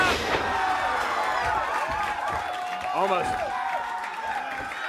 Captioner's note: crowd cheering